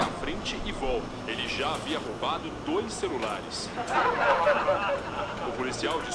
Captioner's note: laughter